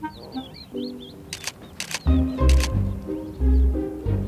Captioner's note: camera clicks